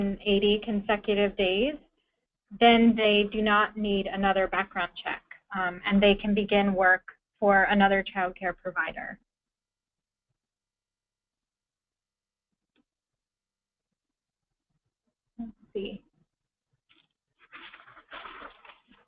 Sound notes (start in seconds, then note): 13.6 pause